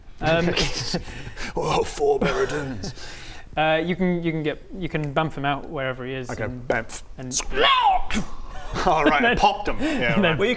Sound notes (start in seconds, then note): 6.7 pffpt